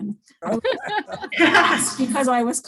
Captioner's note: group laughs